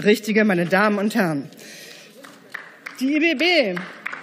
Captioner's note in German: Beifall